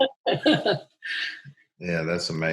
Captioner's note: laughing